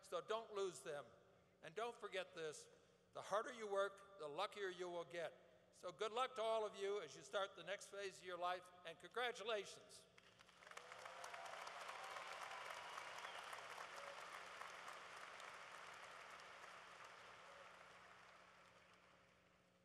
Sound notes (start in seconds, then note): 9.7 applause